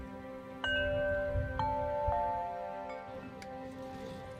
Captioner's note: chimes ringing